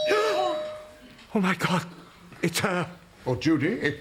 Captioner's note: doorbell